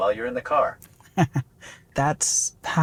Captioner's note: laughs